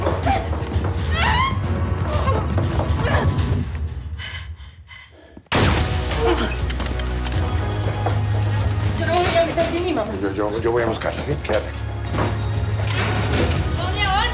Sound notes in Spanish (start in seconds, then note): 1.0 Gritos; 5.5 Disparo